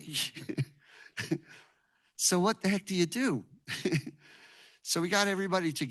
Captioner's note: chuckles